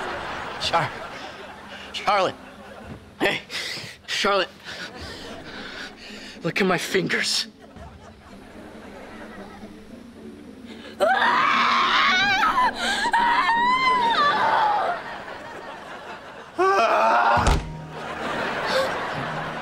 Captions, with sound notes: Char. Charlotte. Hey, Charlotte. Look at my fingers. [screaming] [groaning] [whimpering]